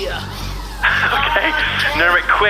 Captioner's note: laughing